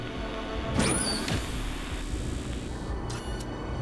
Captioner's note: robot whirring; interface buzzing